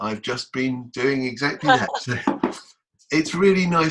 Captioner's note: laughs